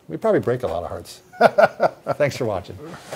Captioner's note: laughs